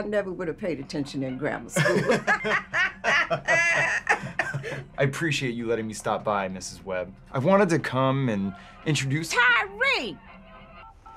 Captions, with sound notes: I never would've paid attention in grammar school. (Keith laughs) (Mrs. Webb laughs) - I appreciate you letting me stop by, Mrs. Webb. I've wanted to come and introduce-- - Tyree!